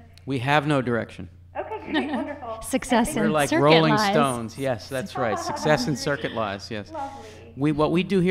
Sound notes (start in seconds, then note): 5.3 laughter